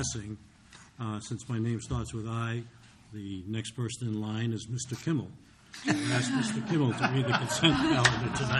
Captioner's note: laughter